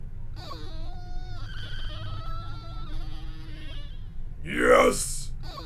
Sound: unknown mutant makes noises

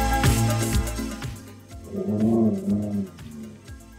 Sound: dog growl sounds like 'Coooool'

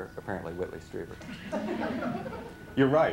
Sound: laughter

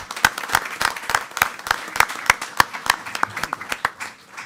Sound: attendees clapping

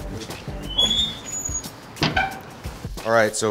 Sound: smoker squeaks

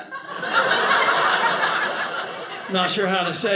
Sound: audience laughing

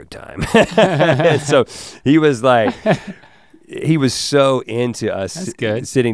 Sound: laughs

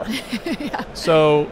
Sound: laughing

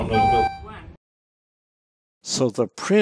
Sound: elevator beeps and says floor one

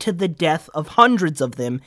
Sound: none

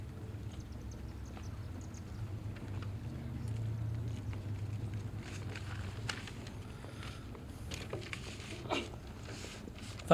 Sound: paper rustling, breathing, and other background noises

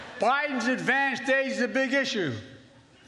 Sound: laughter

